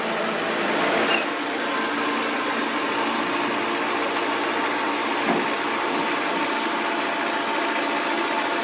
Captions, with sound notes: [Engine] Empty Dump Truck Pulls Out Dangerous Reverse Maneuver in Heavy Traffic